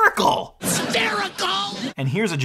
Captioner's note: audience laughs